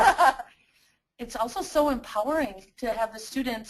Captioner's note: voiceover